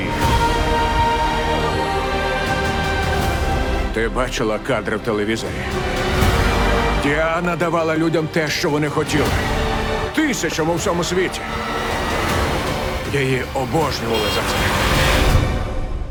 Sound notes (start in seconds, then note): 14.0 horn honking